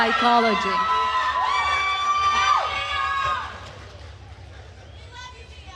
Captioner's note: attendees cheering and applauding